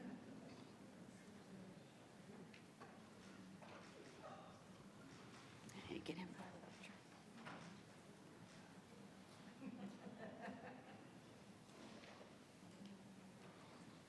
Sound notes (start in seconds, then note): 9.8 attendee laughing